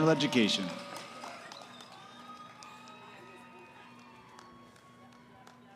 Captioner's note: cheering